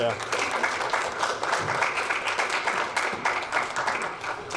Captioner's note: audience applauding